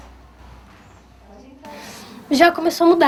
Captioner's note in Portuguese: Silêncio